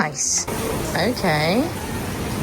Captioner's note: water rushing